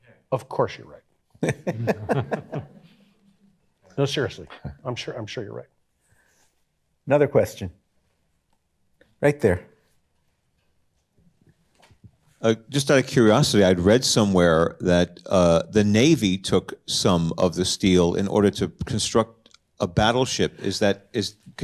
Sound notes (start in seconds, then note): 1.4 chuckles; 1.4 audience laughs